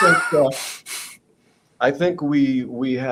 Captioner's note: laughs